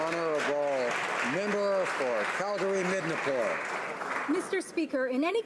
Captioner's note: applause